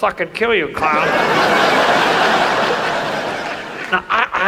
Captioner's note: audience laughs